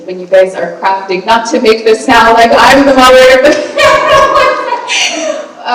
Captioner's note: laughs